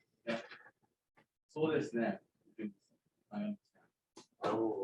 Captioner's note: speaking japanese